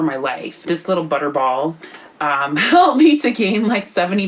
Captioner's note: laughing